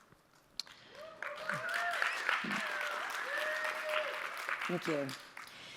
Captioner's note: audience applauding